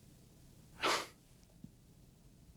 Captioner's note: scoffs